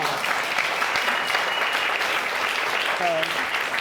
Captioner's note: audience applauding